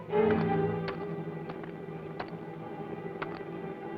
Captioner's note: pickax clacks